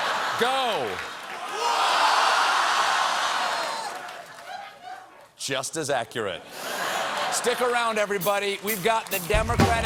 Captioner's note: crowd reacts